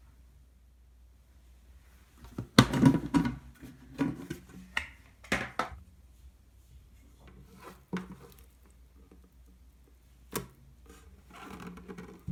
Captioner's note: folding